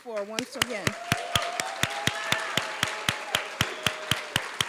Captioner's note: applause